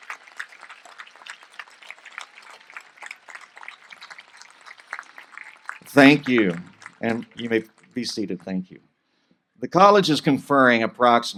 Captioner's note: applause